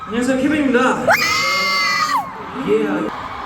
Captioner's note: screams